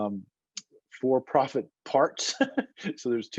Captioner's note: laughs